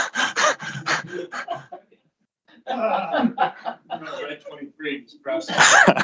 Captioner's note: laughter; panting; laughter